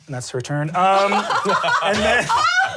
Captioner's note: laughs